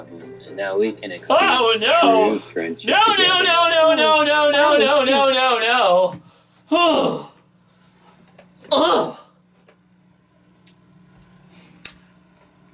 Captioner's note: makes noises in disgust